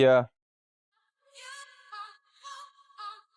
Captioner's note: Reports Loudly to Dan